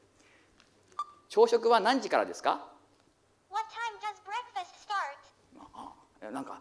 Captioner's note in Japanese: 英語